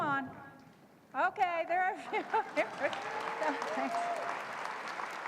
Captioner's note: laughs; applause